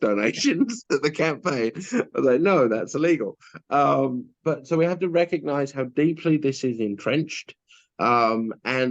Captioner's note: giggles